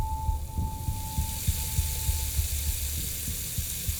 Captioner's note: running water